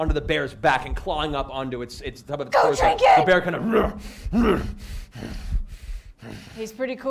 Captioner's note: growls